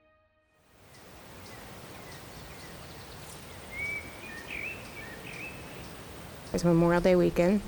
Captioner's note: birds tweeting